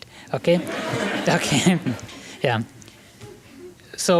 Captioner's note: laughter